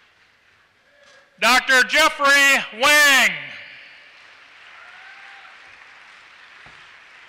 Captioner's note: applause